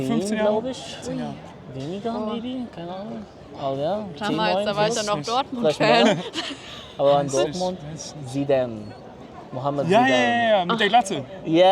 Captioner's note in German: gelächter